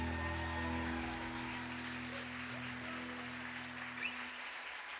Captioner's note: audience cheering